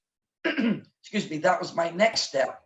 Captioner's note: clears throat